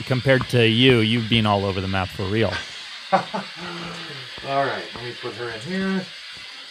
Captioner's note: laughs